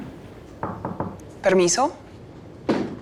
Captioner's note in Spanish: Toques en la puerta